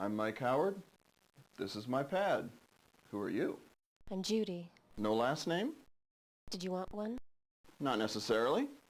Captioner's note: none